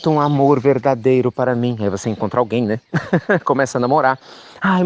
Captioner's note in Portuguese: Risos